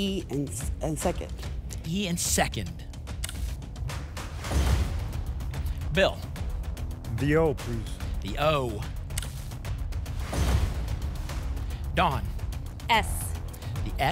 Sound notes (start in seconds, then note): 4.2 thump; 4.3 whoosh; 10.1 thump; 10.2 whoosh